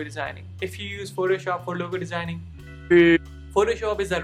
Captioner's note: beep